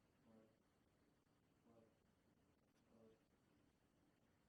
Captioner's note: voiceover